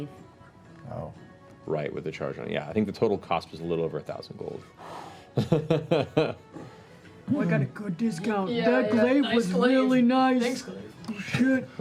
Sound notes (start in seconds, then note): 5.4 laughs